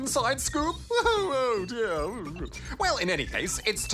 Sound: wails

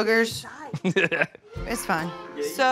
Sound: laughs

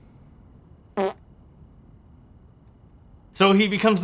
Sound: fart

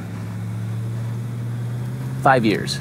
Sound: engine revs

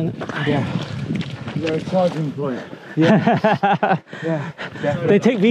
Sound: laugh

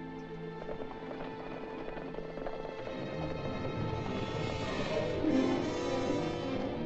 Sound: ominous music; hooves pounding below; ominous music

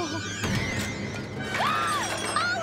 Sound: screaming

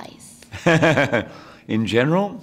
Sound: chuckles

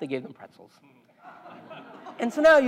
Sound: laugh

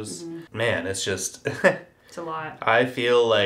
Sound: chuckles

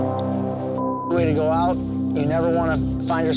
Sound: beep

